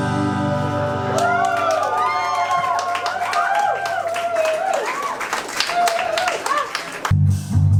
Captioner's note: crowd cheering